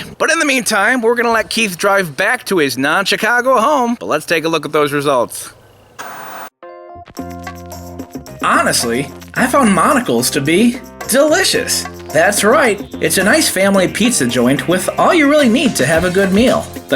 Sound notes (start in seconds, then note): 5.9 TV Static; 6.0 gentle instrumental music